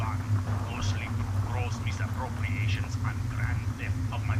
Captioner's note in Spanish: Dialogo de radio distante